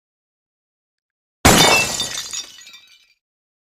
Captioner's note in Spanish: Disparo y cristal rompiéndose